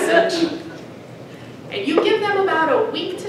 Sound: audience cheers

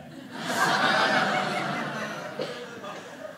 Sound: audience laughing

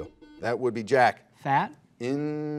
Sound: buzzer buzzes

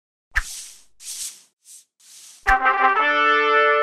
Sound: dry swishing noises; trumpet fanfare

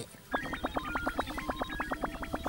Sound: beeping

